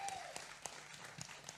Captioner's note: applause